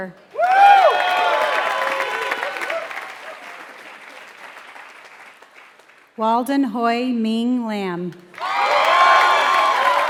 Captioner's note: applause; applause